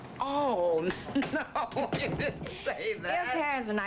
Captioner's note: laughs